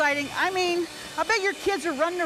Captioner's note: blender whirrs